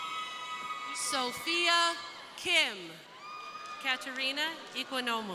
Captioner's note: crowd cheering